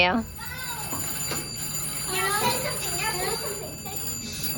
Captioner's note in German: Telefon klingelt